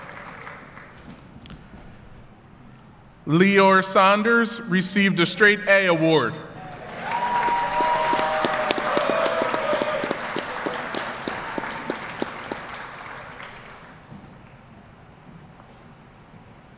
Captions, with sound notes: Leor Saunders received a straight-a award. (Applause)